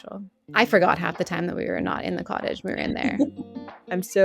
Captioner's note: laughs